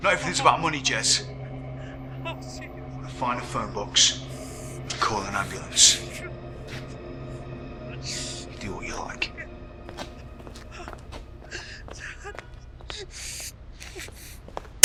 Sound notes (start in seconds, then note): 11.1 Clive whimpering